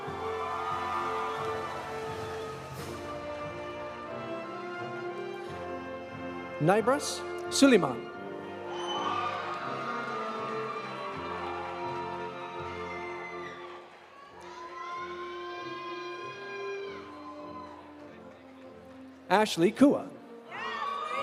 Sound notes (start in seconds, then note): 0.0 audience cheering; 0.0 audience applauding; 8.6 audience applauding; 8.6 audience cheering; 16.8 audience cheering; 21.0 audience applauding; 21.0 audience cheering